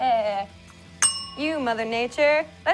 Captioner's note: rings bell